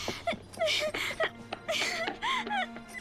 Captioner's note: crying